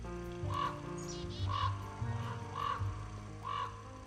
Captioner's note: gentle jazz music; crows cawing